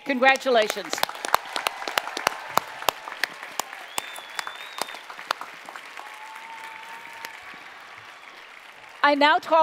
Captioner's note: cheering and Applause